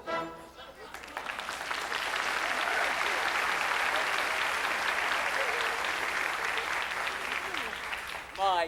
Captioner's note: applause